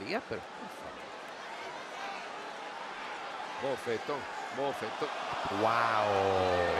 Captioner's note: applause